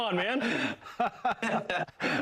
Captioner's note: laughter